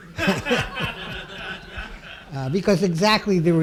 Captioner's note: laughing